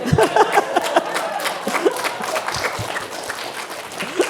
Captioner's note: applause